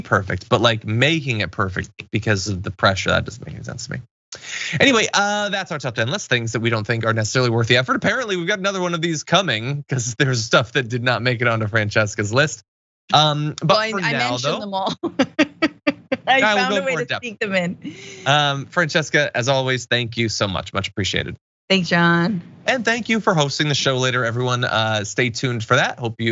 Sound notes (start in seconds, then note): 16.0 laugh